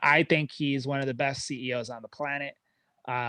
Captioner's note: none